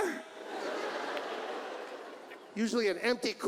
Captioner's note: audience laughs